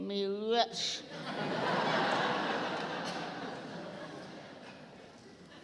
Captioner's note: applause